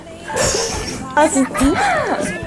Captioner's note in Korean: 헤헤